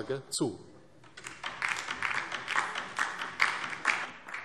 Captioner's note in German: Beifall DIE LINKE